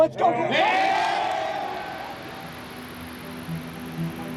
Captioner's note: cheering